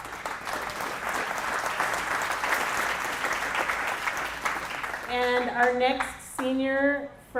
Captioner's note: applause